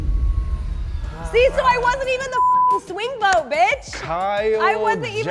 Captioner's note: beep